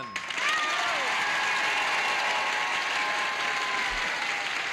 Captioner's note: applause